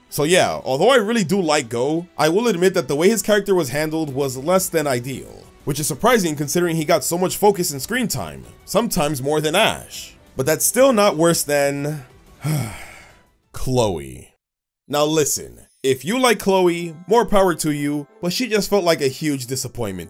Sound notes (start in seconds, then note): 12.4 sigh